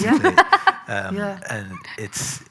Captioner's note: loud laughter